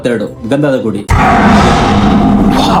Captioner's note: tiger’s Roar